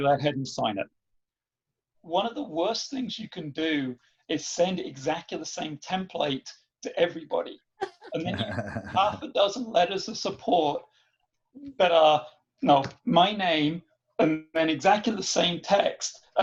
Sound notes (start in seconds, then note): 7.8 laughing